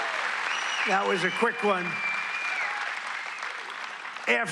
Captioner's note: cheers and applause